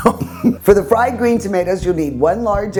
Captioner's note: laughing